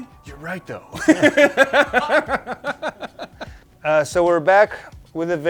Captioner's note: laughs